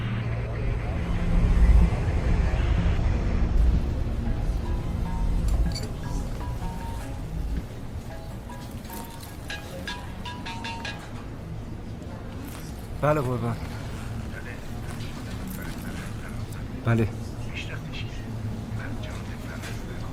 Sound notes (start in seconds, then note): 4.6 mobile ringing; 14.2 indistinct chatter; 17.5 indistinct chatter